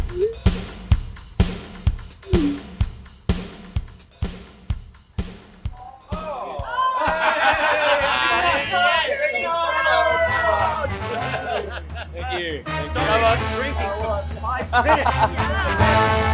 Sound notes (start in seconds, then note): 10.3 all laughing; 14.6 upbeat music